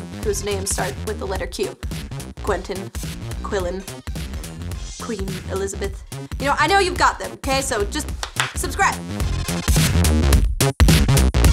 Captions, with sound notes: WHOSE NAME START WITH THE LETTER "Q" QUENTIN, QUILLEN, QUEEN ELIZABETH. YOU KNOW, I KNOW YOU GOT THEM 'KAY, SO JUST [CLAP] [CLAP] SUBSRIBE.